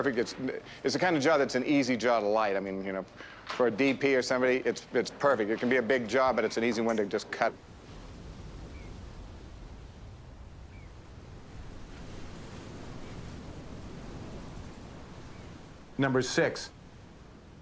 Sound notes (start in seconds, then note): 8.0 blowing wind